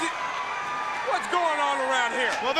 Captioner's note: crowd cheering